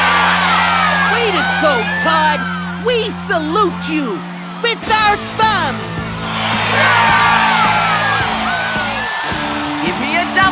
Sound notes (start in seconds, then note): 5.3 cheering and yelling